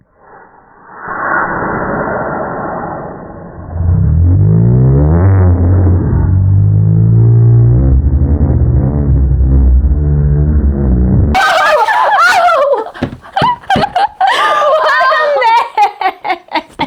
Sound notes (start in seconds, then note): 3.2 slow motion sounds